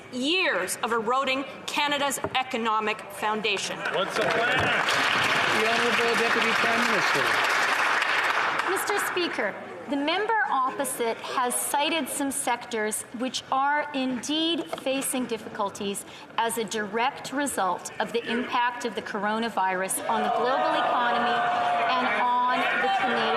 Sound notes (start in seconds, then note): 7.7 some Applause